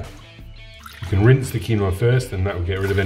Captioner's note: water splashing